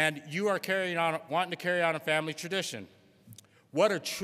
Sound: none

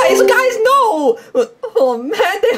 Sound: Zoom meeting bell alarms

